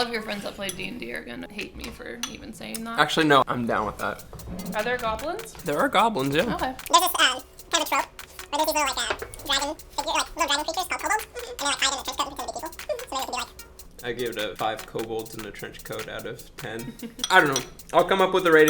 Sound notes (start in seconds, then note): 11.3 sped up speech